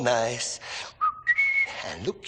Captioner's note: whistles